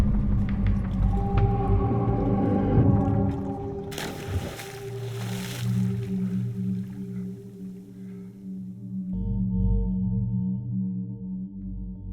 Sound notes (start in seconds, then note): 2.9 water splashes; 4.1 music calms; 9.3 pensive music